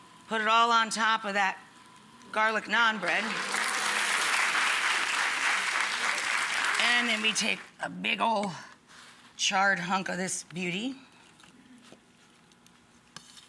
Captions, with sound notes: Put it all on top of that garlic naan bread. (audience applauds) And then we take a big ol' charred hunk of this beauty.